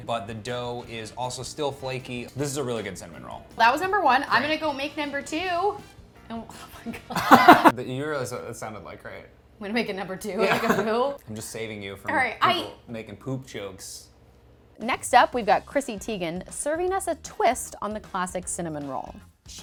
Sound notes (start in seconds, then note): 7.1 laughing